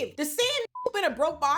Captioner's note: beep